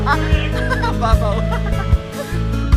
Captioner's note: laughs